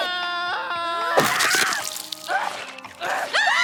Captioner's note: Mr. Charleson screams; flesh ripping; group screaming